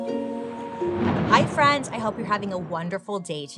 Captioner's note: thunder rumbles